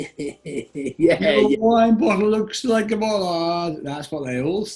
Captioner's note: chants; chuckling